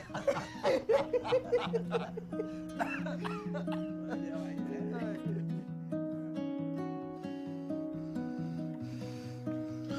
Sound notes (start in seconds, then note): 0.0 all three laugh hysterically; 2.9 coughs